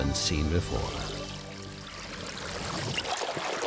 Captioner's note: water bubbling